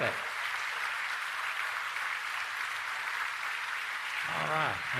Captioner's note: applause